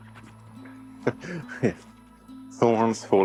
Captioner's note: chuckles